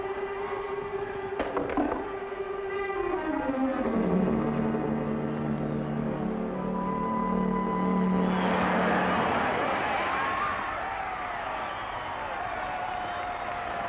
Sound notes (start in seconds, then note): 1.4 man clanks; 8.2 crowd roars